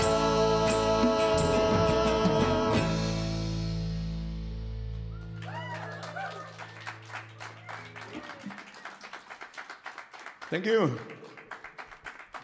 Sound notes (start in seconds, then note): 5.2 aplausos; 5.2 applause